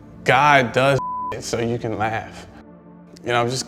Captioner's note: beep